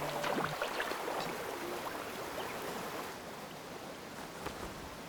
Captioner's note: water rushing